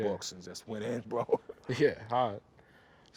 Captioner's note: laughs